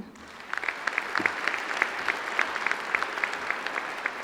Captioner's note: applause